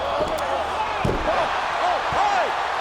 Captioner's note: canvas thumps